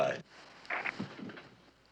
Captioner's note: phone clicking